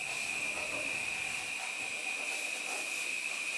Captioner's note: quiet milling, sanding in the background